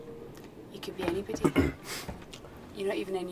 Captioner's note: Theo coughs